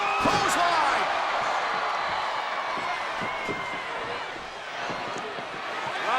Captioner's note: crowd cheers